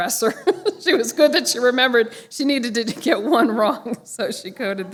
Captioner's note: laughter